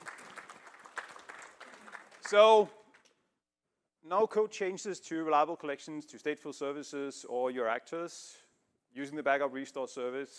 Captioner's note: applause